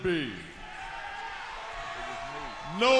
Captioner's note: crowd cheering